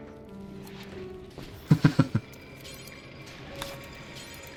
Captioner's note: laughs